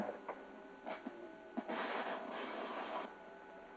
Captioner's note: static crackling